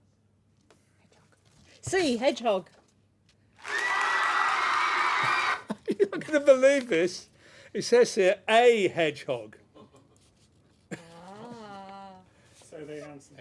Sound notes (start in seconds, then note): 3.6 applause